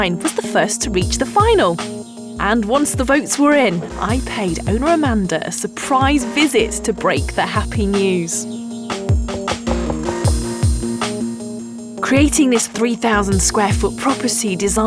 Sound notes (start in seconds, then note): 9.7 woman knocking on the door; 10.5 gentle upbeat music